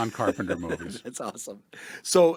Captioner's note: laughs